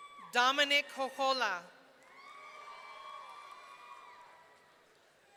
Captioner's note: audience cheering